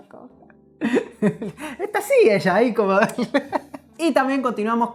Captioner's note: laughs